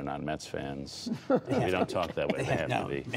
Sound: laughter

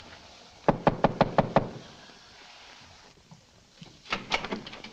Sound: knocks on door

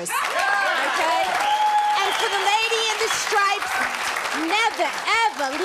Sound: audience cheering

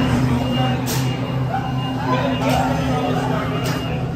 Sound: beeping

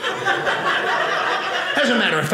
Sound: audience laughing

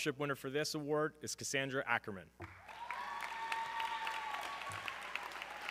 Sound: audience cheering

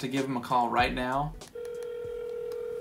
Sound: phone beeps

